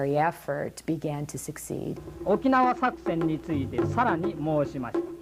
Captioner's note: speaking Japanese